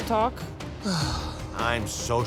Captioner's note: sighs